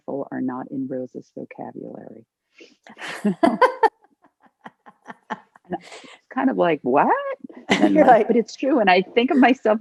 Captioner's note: laughter